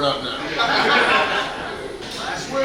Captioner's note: hahaha